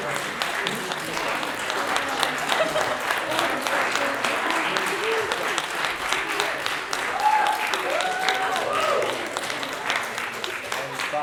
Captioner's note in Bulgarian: Аплодисменти